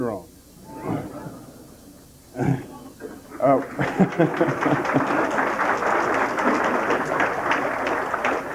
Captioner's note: audience laughter and applause